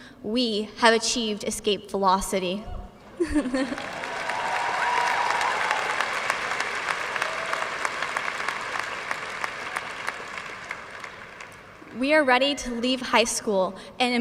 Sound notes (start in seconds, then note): 3.6 audience cheers and applauds